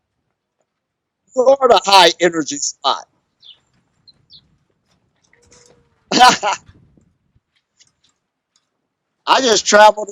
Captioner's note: laughs